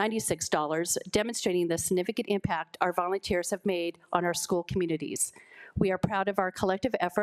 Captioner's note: none